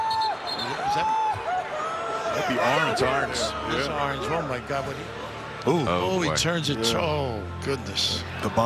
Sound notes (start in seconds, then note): 1.2 player cries